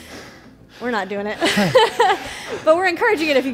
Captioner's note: breathes heavily; laughs